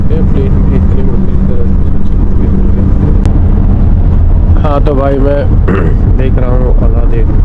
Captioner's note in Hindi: गला साफ़ करने की आवाज़